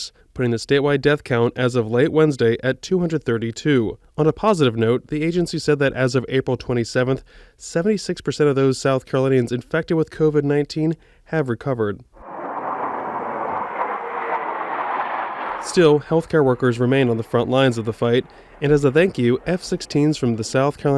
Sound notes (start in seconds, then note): 12.2 jet sounds